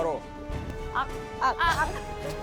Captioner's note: laugh